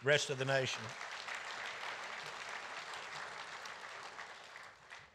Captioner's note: audience applauding